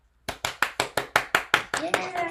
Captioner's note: clapping